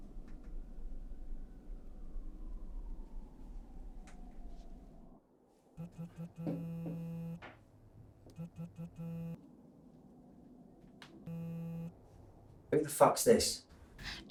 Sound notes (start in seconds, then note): 5.7 mobile phone vibrates